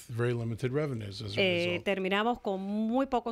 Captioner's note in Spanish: Hablando ingl\s